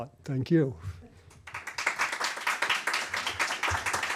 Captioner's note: applause